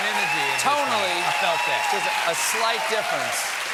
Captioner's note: cheers and applause